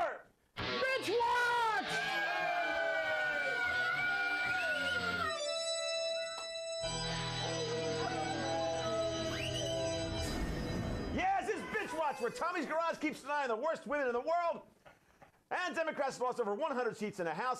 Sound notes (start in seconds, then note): 0.6 heavy metal guitar; 4.6 sinister organ music; 5.0 jail door slamming